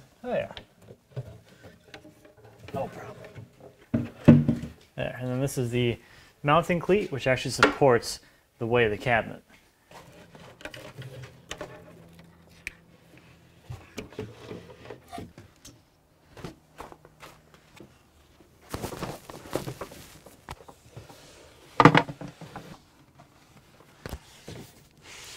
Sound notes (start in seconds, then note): 3.9 cabinet thumping; 9.9 wood clattering; 16.3 footsteps; 21.7 wood clunking; 25.1 wood scraping